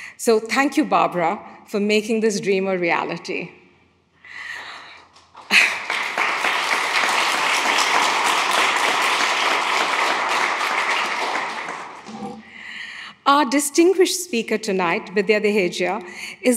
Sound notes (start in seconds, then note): 5.2 audience applauds